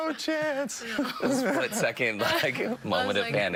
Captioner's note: laughter